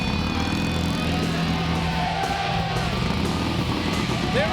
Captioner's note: engine roaring